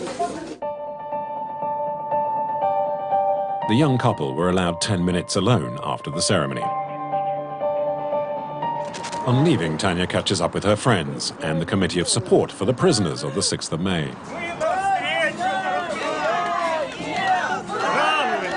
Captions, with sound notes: The young couple were allowed ten minutes alone after the ceremony. On leaving, Tanya catches up with her friends and the Committee of Support for the prisoners on the 6th of May. [Russian spoken audio]